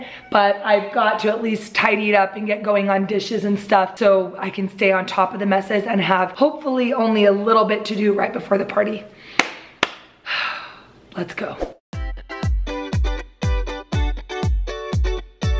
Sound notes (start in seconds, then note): 9.8 claps; 11.9 upbeat music